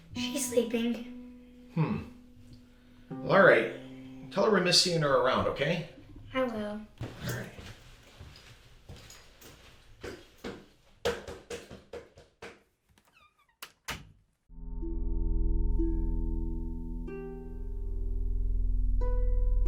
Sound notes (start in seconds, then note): 13.6 door lock clicks; 14.5 pensive music